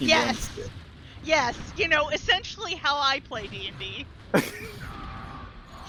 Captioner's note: laughs